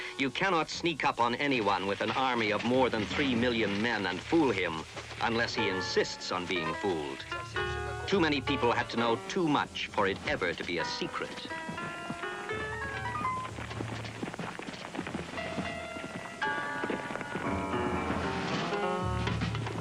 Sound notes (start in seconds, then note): 12.2 footsteps trampling; 12.2 sparse tense music